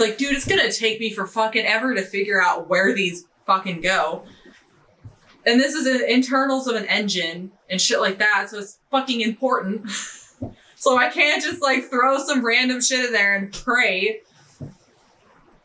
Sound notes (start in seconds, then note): 9.8 chuckling